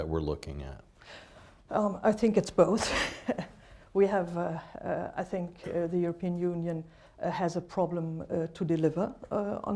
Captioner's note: laughs